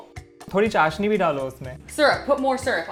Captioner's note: speaking in Hindi